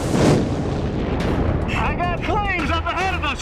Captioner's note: fire roaring